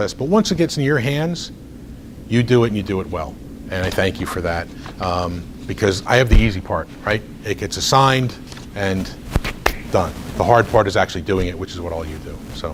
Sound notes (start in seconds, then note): 0.0 recording crackles; 9.3 smacks hands